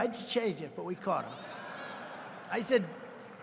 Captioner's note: laughter